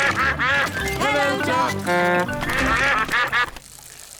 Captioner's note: toots horn; all quack